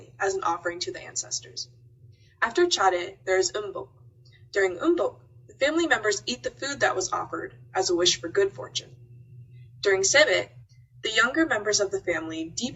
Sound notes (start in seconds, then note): 3.7 speaks Korean